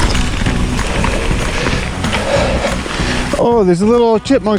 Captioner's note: heavy breathing